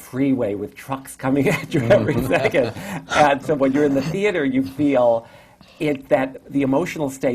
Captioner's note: laughter